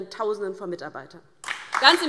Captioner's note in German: Beifall DIE LINKE